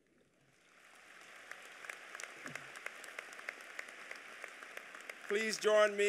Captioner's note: applause